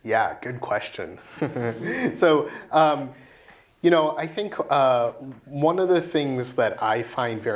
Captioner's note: laugh